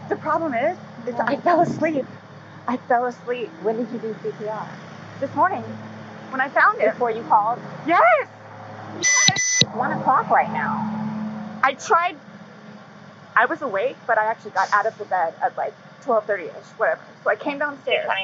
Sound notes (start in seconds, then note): 9.0 police radio beeps